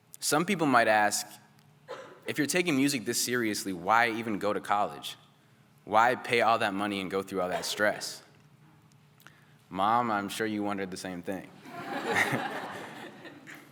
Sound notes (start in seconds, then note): 11.6 laughter